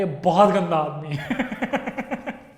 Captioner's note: laughs